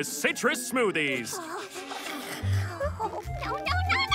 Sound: whimpering

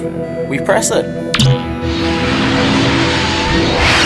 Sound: zapping Noise

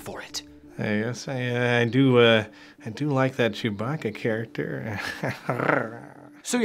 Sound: snarling

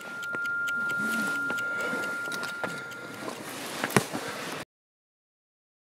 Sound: tinnitus rings in the ears

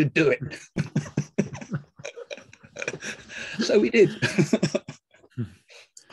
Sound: laughs

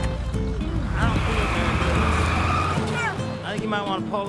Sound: tires squeal

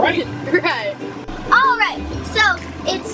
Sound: laughing

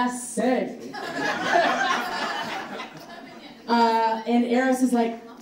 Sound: audience laughing

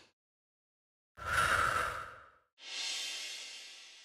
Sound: deep inhale; deep exhale

